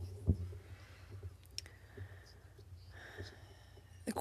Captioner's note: speaking French